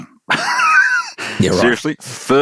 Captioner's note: laughs